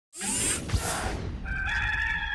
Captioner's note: air whoosh